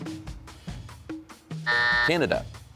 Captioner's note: buzzer sounds